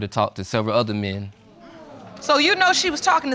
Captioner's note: audience exclaims